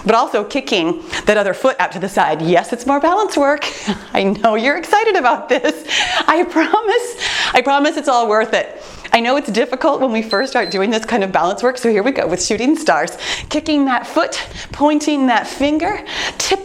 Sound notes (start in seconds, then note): 5.3 chuckles; 10.2 timer beeps